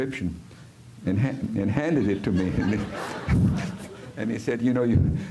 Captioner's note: risas